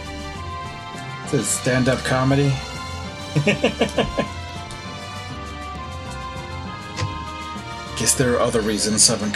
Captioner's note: laughs